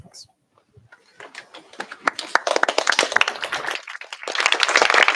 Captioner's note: applause